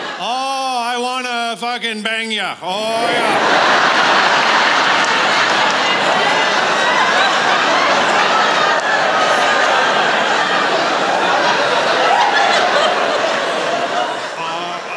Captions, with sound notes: oh, I want to f***ing bang ya. Oh, yeah. (Laughter)